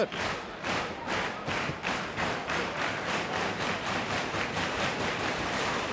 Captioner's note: crowd claps rhythmically